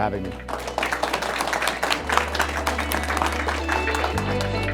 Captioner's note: applause and Music